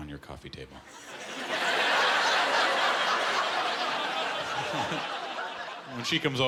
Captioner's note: laughter